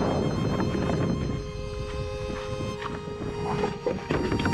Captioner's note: wind blowing